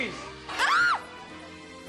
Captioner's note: Amor screams